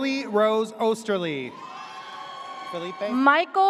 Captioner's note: audience cheers